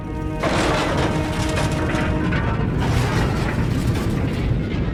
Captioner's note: roaring fire